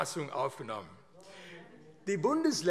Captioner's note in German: Zuruf: Oh, oh, oh!